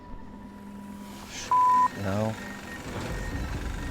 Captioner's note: beeps